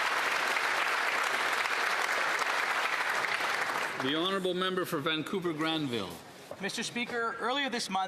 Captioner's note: applause